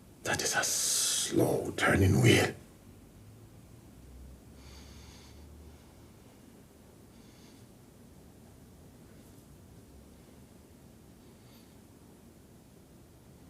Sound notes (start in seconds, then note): none